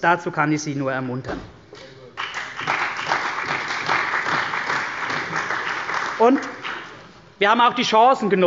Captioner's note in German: Beifall bei der CDU und dem BÜNDNIS 90/DIE GRÜNEN